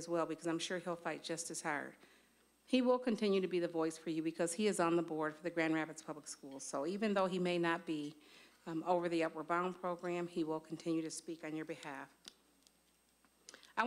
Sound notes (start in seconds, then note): none